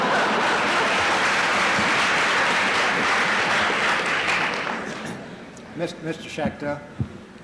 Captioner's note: laughter; applause